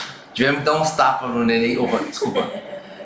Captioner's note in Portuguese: risos